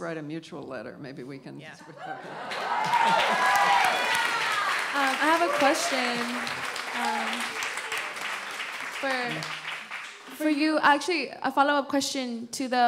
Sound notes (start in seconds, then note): 4.1 applause